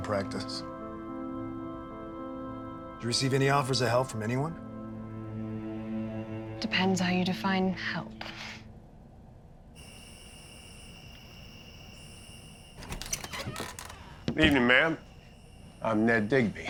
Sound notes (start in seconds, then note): 9.7 crickets chirping; 12.7 door creaks open